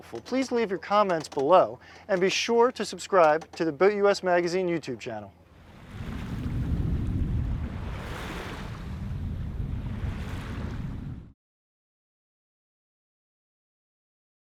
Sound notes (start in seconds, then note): 10.6 sound of gentle waves